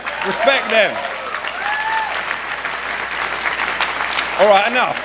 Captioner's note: cheering, applause